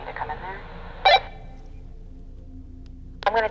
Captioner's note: walkie-talkie blips